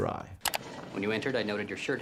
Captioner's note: mouse clicking